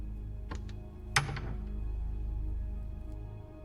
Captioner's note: door rattles